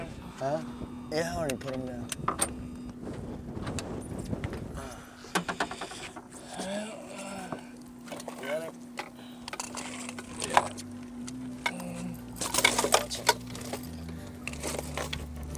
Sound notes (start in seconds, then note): 5.3 groans; 7.2 sighs